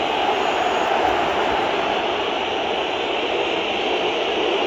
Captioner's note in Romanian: Aplauze